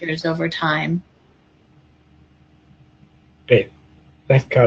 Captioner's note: pause